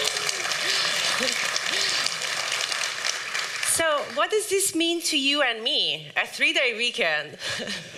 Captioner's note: applause